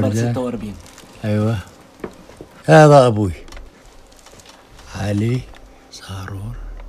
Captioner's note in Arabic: يتحدث لغة أجنبية